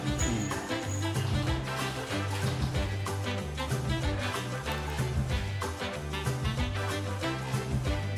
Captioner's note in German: lacht